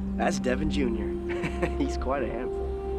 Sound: laughing

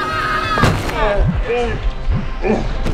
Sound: punching sound

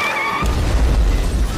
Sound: kablam

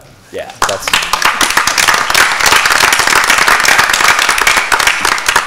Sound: applause

